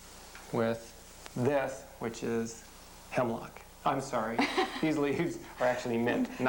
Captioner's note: laughing